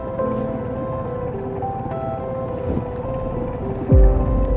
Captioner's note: boat rumbling